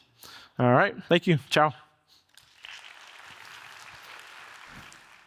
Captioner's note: audience applauds